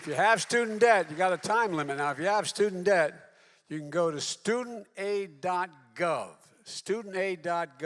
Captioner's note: applause